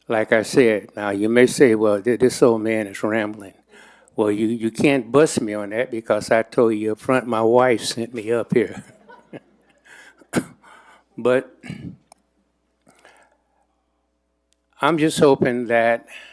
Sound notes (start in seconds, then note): 8.6 chuckles